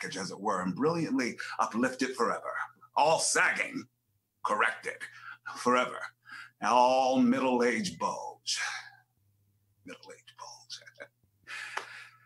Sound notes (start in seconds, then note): 10.7 laughs